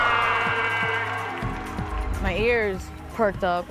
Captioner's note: crowd cheers